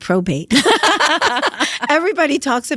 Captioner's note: laughter